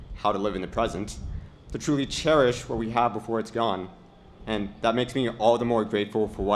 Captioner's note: none